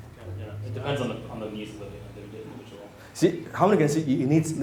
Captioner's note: whispering